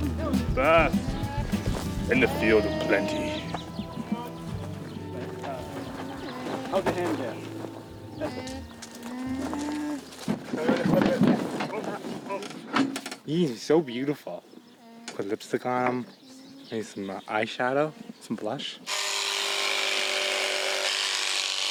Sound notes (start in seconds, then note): 10.7 mixed chatter; 18.8 shears buzzing